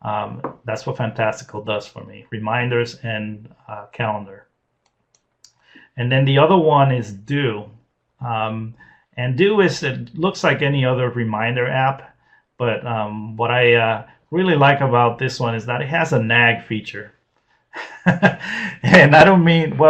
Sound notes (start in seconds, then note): 17.8 laughs